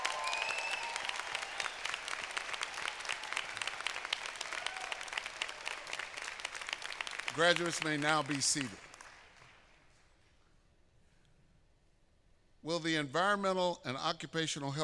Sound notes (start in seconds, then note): 8.9 applause